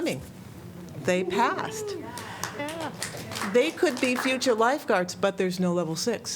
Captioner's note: applause